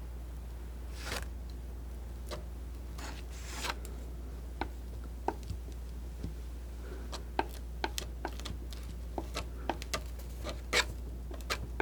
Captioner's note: scratching